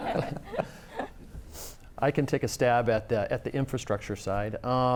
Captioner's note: laughter